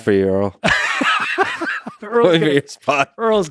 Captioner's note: laughing